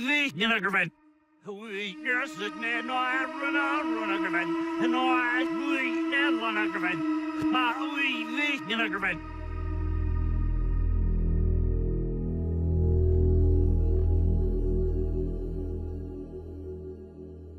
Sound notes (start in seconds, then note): 1.5 reversed audio continues; 9.0 ominous music